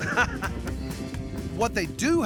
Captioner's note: chuckling